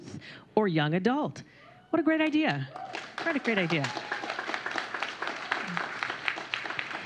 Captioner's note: applause